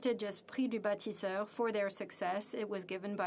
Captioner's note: speaking French